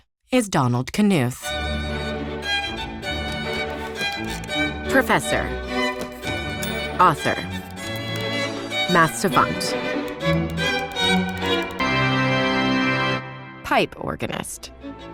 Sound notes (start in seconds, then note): 1.4 classical music; 3.2 slides click; 5.9 slides click; 11.8 dramatic organ music